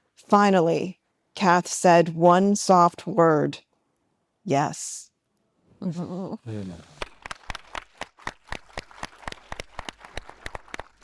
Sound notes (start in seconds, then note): 6.9 attendees applauding